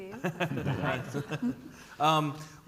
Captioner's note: chuckles